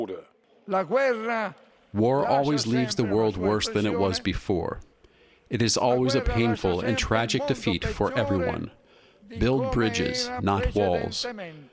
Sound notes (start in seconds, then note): 2.5 through translator